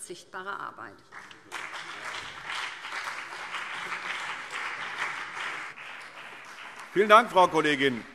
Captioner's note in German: Beifall BÜNDNIS 90/DIE GRÜNEN und CDU